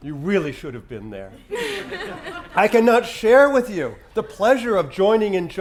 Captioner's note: laugh